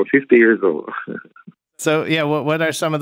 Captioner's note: laughter